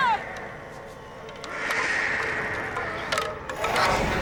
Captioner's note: screeching